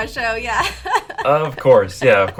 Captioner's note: laughs